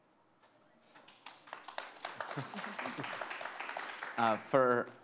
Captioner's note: audience applauding